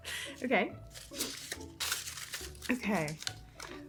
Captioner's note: light upbeat music; papers shuffling